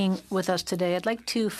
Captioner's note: speaking in French